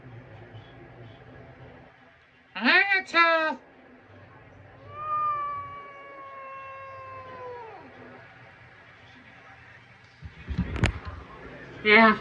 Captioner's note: angrily meows